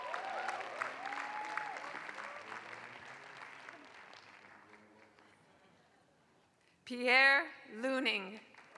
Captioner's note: applause; applause